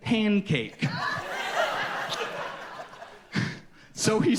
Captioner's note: audience laughs